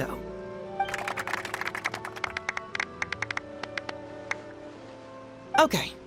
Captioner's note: applause